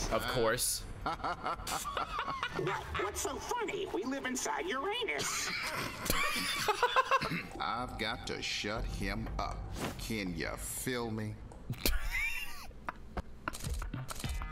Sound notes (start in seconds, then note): 5.1 laughs; 11.7 laughs